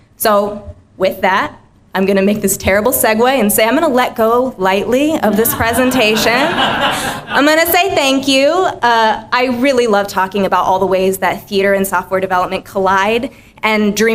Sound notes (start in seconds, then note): 5.3 laughter